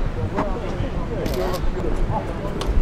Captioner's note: camera snaps